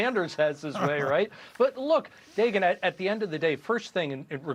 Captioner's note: laughter